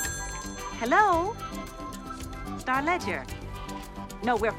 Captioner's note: ringing